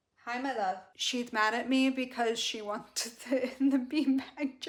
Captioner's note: laughing